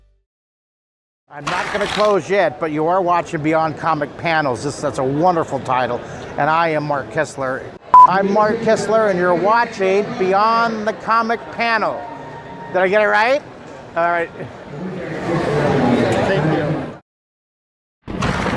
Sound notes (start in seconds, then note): 7.9 beeping